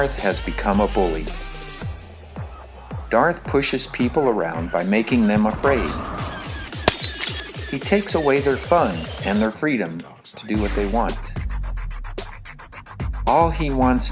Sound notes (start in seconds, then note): 6.8 cup breaks on floor